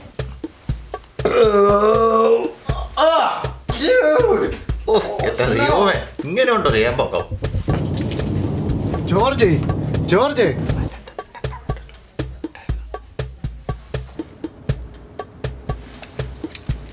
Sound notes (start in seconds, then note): 1.2 Appachan belches loudly